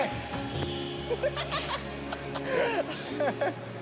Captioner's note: laughs